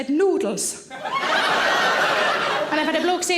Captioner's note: audience laughing